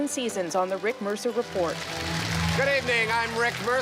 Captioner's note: applause